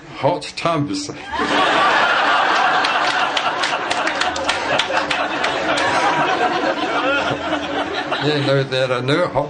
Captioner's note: laughter